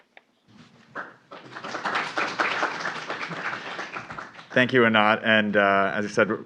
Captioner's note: applause